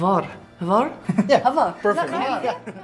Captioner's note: laughter